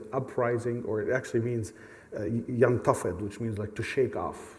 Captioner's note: speaks arabic